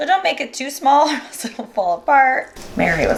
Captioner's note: laughing